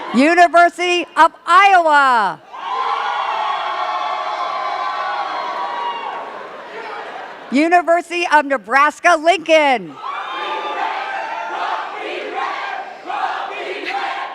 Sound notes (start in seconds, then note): 2.4 cheers and claps; 9.9 cheers and claps